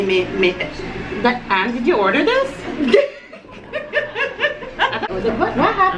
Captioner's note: laughs